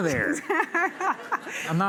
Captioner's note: laughter